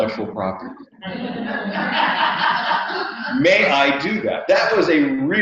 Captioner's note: laugh